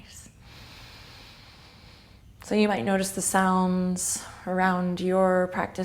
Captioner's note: deep inhale